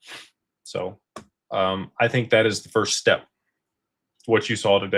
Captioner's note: snorts